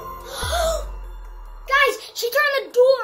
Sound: suspenseful music; kids exclaim

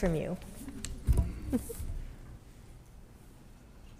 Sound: soft laughter

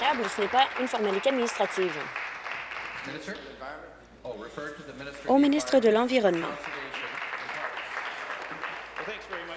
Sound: applause

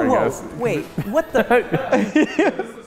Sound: laughing

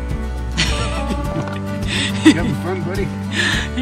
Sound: laughing

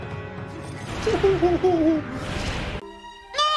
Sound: cries?

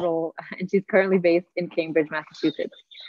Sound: chuckling

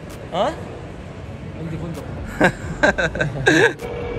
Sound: laughs

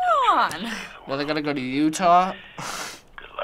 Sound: scoffs

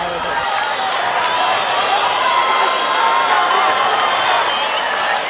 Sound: crowd cheering

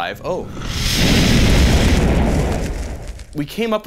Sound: explosion blasting

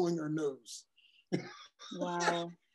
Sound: laugh

